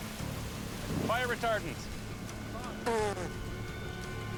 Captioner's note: spits out